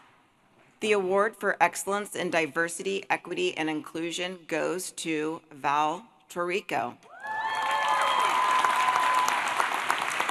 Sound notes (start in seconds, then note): 7.2 applause